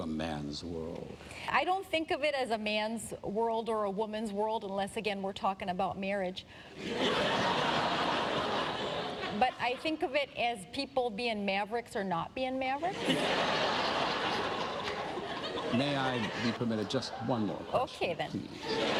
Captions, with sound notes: - BUT NO. - NO? NO SAME-SEX MARRIAGE? - MM-MM. MARRIAGE IS MEANT FOR PEOPLE WHO WEAR DIFFERENT KINDS OF SWIMSUITS. [laughter]